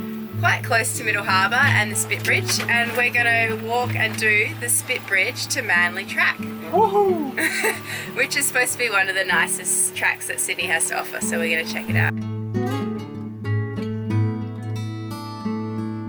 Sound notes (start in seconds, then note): 7.8 laughing; 12.6 gentle guitar music